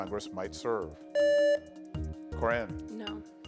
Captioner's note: buzzer beeps